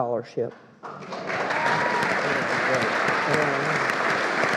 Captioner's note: all applauding